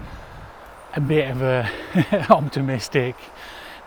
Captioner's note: laughs